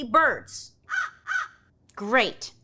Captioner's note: crow cawing